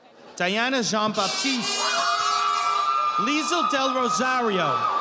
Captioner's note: audience applauding